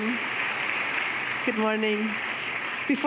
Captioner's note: applause